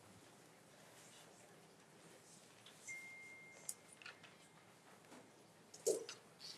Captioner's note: speaking faintly